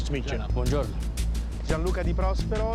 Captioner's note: Italian